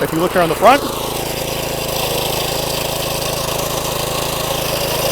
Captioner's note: engine roaring